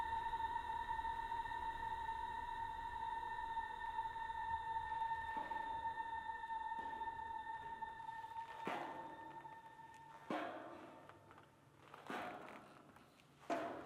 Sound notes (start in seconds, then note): 5.5 footsteps tapping